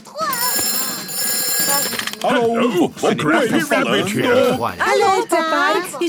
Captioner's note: phone ringing